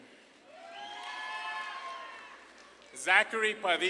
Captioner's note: audience claps and cheers